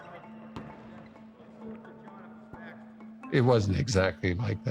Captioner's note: people murmuring